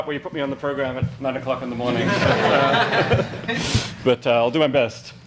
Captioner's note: audience laughs